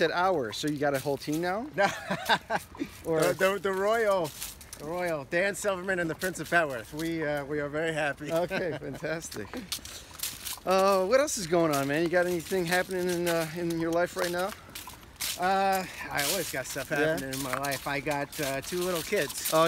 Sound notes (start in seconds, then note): 1.7 laughs